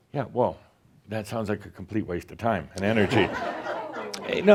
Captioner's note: laughter